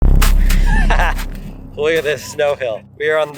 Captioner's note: dramatic music; laughs